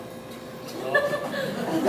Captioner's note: audience laughs